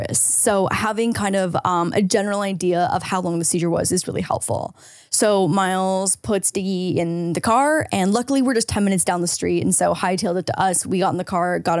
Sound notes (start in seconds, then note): none